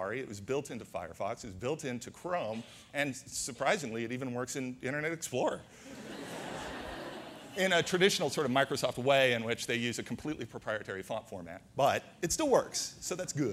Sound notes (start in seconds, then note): 5.8 audience laughter